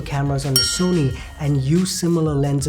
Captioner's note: chime